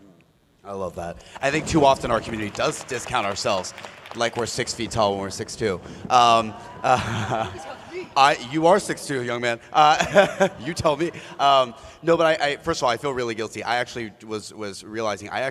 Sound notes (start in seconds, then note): 9.9 laughter